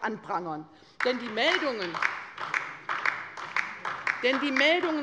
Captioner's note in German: Beifall bei der LINKEN